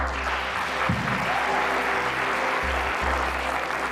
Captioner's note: applause